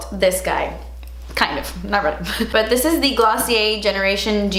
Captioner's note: she chuckles